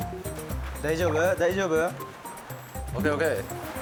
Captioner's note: pit-a-pat